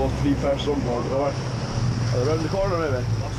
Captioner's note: boat engine revving